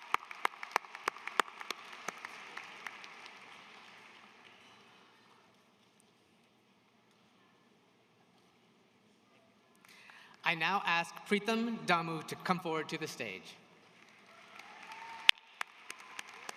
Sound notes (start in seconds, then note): 4.6 applause